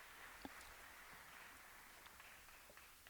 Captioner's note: applause